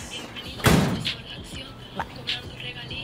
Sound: door slams

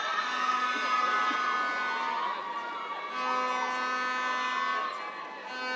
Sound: air horn blaring

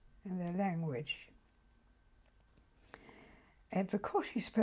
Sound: pauses for 3 seconds

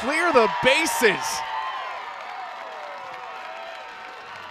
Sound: cheering

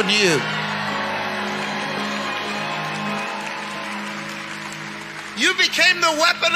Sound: congregation cheering

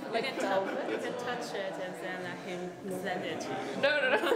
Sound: laughing

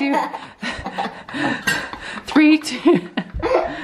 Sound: laughing

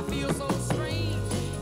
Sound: knocks

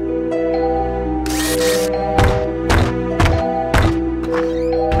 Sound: whirring, Stomping; door Creak, Close

